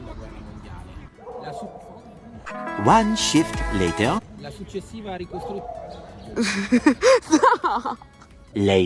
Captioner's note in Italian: Risate